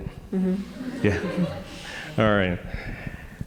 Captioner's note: audience chuckling